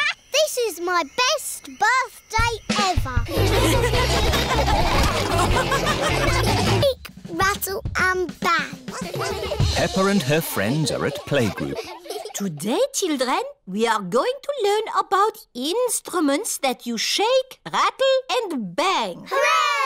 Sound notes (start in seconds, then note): 3.3 all laughing